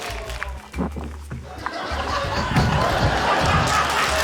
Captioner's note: laughter; applause